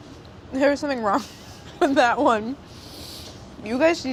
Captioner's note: laughs